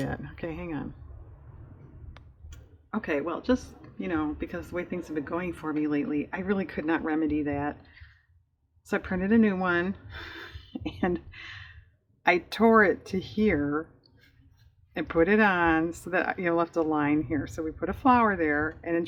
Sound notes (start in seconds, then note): 10.8 laughs